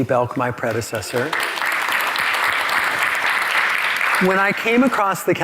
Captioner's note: all applaud